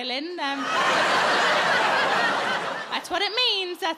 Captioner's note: audience laughing